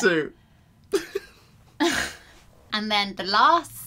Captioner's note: laughs